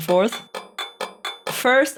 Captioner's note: clinking